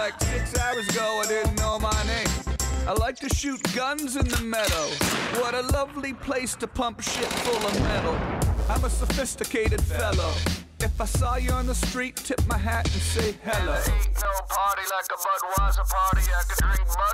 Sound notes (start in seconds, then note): none